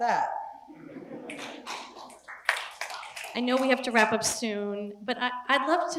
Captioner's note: laugh; applause